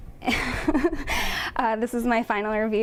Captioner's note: chuckling